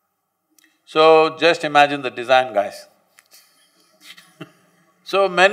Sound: laughs

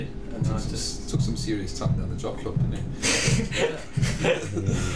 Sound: laughs

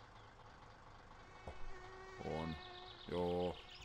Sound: flies buzzing

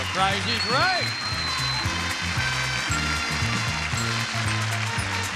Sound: audience applauds

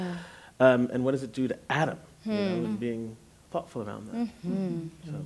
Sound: hmm

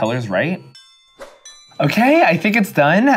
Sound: bells ringing gently

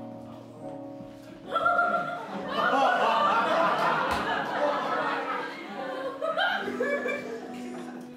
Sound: laughter

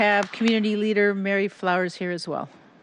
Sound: applause

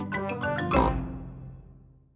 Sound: snort

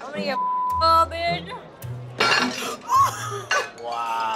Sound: beep; bottles dropping

